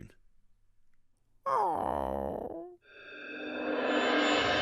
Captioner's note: disappointed squawk